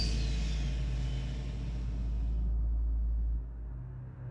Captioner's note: sound of tank winding down